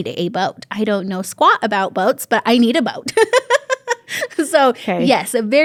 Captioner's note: laughs